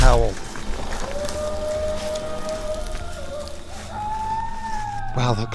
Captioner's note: distant howling